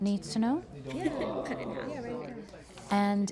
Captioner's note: crowd chatting